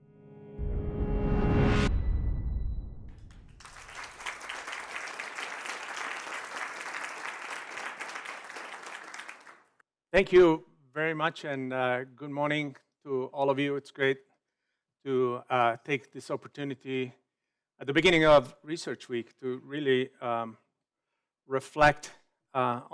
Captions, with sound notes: (dramatic music) (audience applauding) - Thank you very much and good morning to all of you. It's great to take this opportunity at the beginning of research week to really reflect